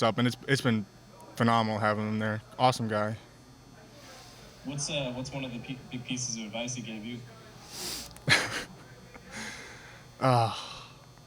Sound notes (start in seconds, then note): 8.1 laughs